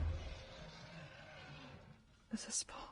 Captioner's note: monster roaring and door pounding continues in distance